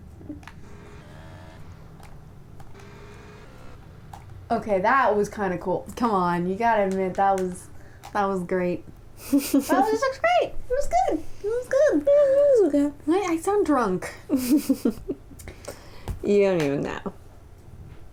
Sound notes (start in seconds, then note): 14.3 laughter